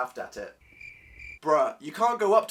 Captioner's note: cricket noises